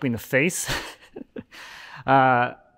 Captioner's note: chuckling